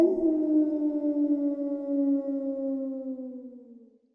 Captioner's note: wolf howling